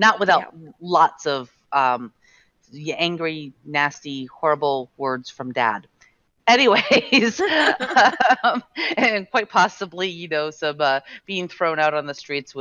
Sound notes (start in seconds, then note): 7.2 laughing